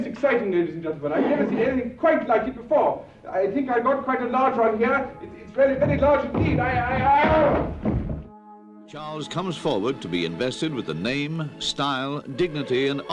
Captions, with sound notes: most exciting ladies and gentlemen. I've never seen anything quite like it before. I think got quite a large one here. It's very, very large indeed--(yells) - [Voiceover] Charles comes forward to be invested with the name, style, dignity, and honor